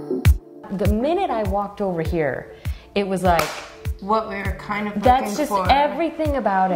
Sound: claps

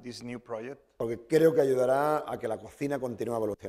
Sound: speaking spanish

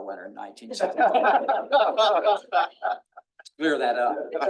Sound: attendees laughing

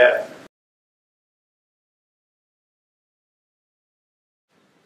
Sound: silence

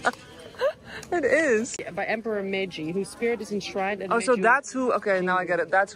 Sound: laughter

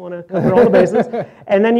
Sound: laughter

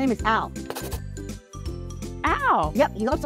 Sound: pencil scribbles

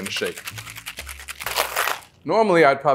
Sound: ice clattering

